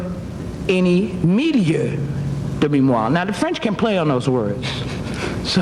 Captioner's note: speaking foreign language